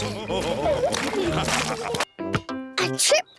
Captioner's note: all laugh